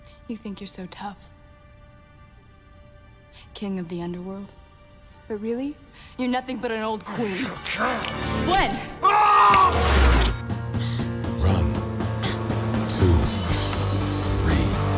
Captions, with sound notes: YOU THINK YOU'RE SO TOUGH, KING OF THE UNDERWORLD, BUT REALLY, YOU'RE NOTHING BUT AN OLD QUEEN. WHEN! ( shouting ) RUN, TWO, THREE.